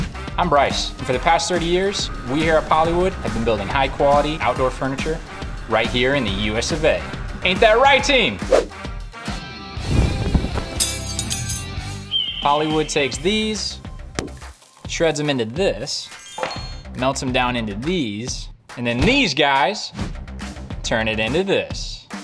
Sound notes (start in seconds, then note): 10.4 patriotic music; 11.1 crashing sound